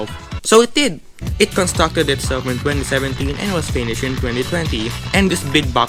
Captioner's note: balloon stretching sounds